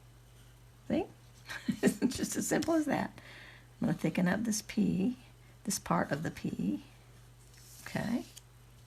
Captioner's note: giggles